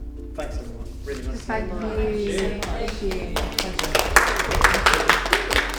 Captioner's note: applause